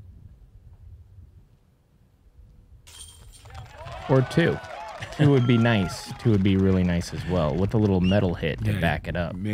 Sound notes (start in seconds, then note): 3.4 applause